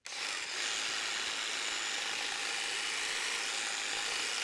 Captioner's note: tool whirring